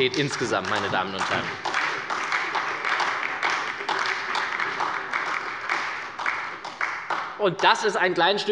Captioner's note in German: Beifall bei der SPD